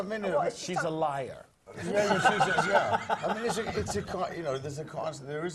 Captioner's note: laugh